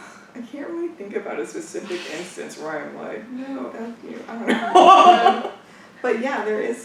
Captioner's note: laughs